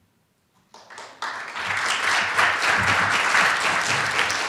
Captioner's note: applause